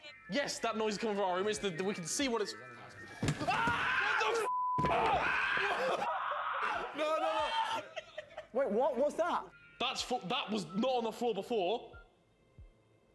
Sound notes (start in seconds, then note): 4.8 screaming; 4.8 screams